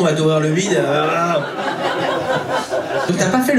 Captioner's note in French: rires public